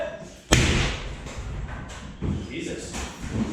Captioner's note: hammer thuds